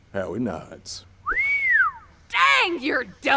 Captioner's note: whistle